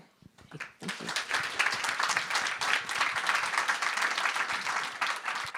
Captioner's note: audience applauds